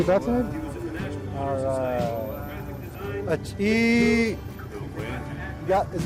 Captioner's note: speaks in Navajo